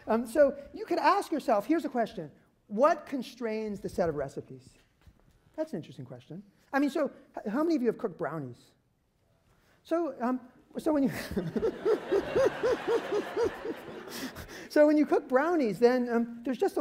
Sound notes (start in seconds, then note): 11.1 laughter